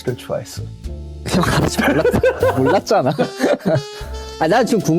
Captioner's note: laughs